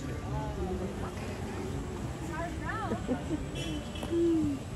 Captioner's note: crowd noise